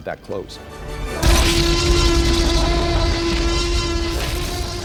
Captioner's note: t-rex roars